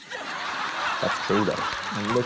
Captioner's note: laughter